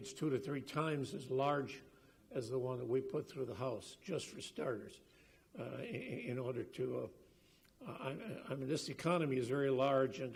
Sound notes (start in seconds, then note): none